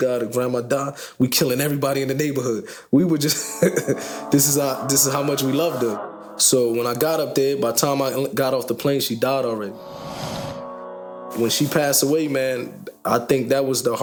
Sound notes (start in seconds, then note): 3.4 laughing